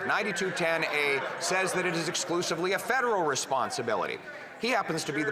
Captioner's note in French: voix de l'interprète